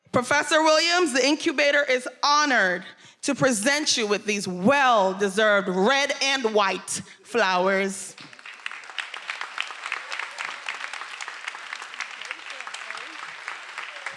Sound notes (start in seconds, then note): 8.1 everyone applauding